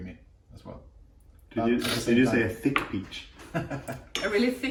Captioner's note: laughter